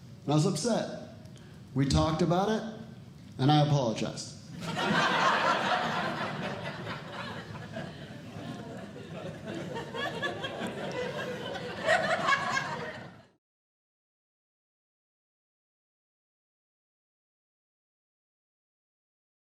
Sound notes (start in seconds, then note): 4.6 audience Laughing